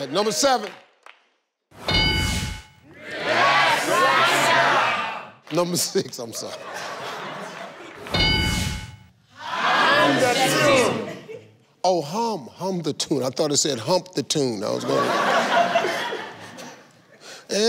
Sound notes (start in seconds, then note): 1.8 dings; 6.3 chuckles; 8.1 dings; 14.8 laughs